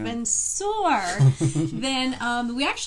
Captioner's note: laughing